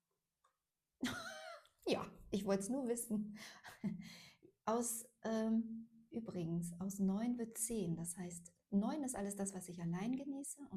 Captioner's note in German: gelächter